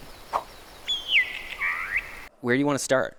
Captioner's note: bird chirps